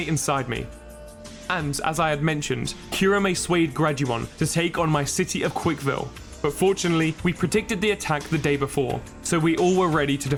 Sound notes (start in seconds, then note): none